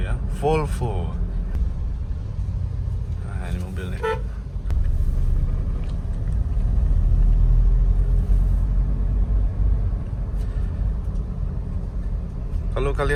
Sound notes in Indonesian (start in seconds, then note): 3.9 suara klakson